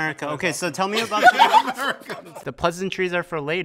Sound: participants laugh

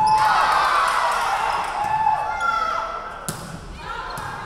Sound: crowd cheering

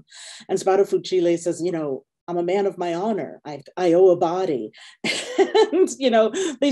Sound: chuckling

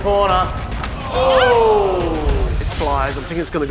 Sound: crowd groans

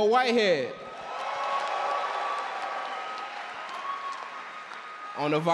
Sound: audience cheer and clap

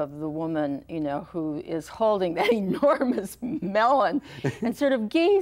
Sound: chuckles

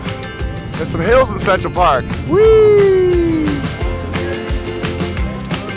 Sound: cheers

